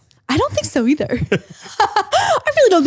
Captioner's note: both laughing